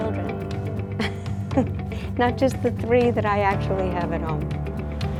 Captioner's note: laughs